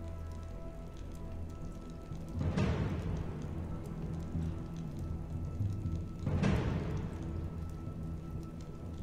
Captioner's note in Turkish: Ateş Çıtırtısı Sesleri; Gerilim Müziği